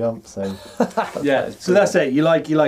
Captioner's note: laughing